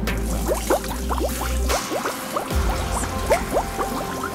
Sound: running water

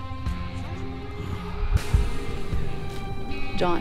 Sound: intense music; John sighs

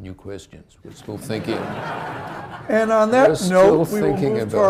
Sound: laughter

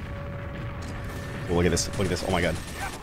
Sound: guns firing

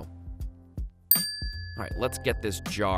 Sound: dings

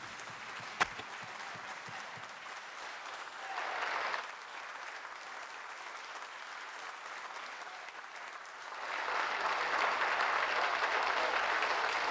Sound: applause

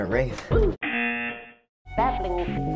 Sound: buzzer

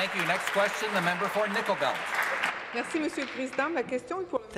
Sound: applause

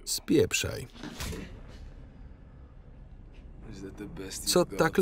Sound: punching

